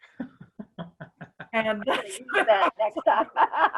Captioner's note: all laughing